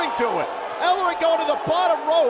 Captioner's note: crowd cheering